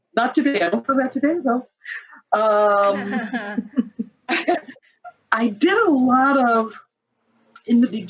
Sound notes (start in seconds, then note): 2.8 all chuckling